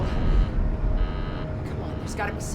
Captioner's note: beeping